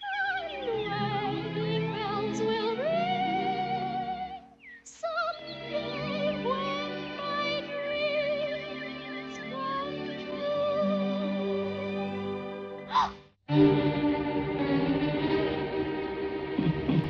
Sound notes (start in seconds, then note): 12.8 gasps; 13.5 foreboding music